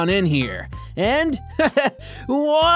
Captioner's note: laughs weakly